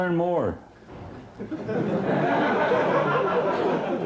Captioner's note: laughing